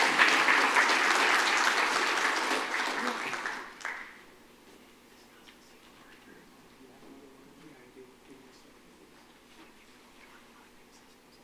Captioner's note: applause